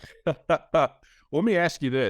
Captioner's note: chuckles